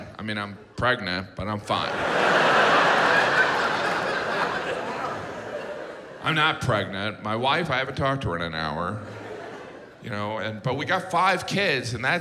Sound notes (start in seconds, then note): 1.8 audience laughs